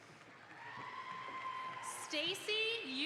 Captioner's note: audience applauds